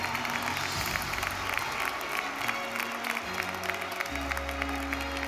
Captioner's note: audience applause continues